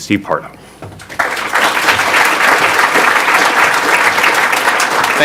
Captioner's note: audience applause